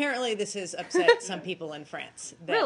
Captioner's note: laughter